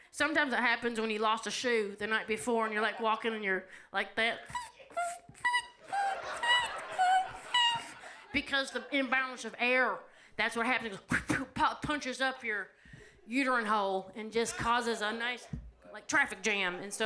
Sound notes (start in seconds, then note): 4.3 imitates air squeaking; 5.8 audience laughs